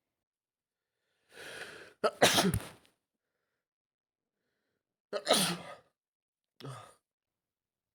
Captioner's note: double sneeze